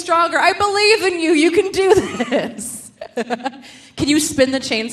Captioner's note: laughs